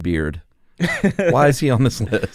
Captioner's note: laughter